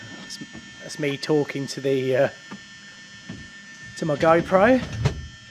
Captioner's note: voiceover